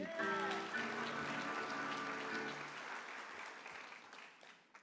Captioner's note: applause